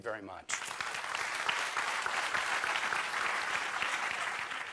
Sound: applause

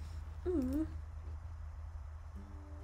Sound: wimpers

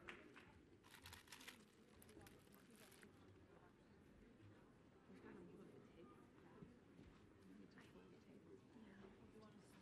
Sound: applause

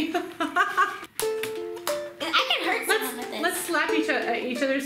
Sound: laughs; slapping

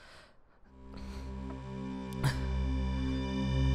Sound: breaths heavily

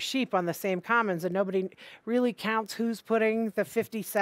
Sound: none

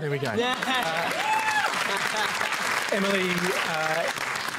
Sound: cheering and applause

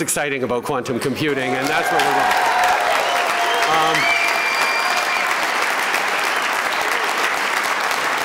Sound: applause, cheers

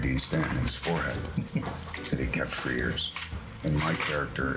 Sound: man chuckles

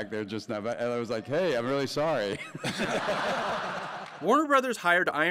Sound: laughs all around

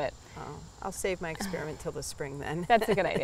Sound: laughs

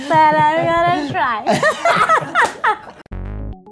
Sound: laughter; playful music

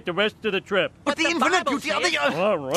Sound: arguing

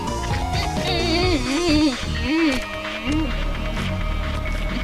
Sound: discontented

